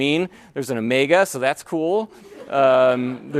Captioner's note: laughter